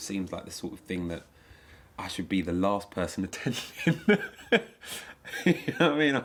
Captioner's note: laughing